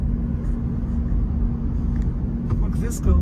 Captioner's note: car softly drives